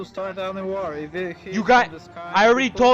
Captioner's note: stutters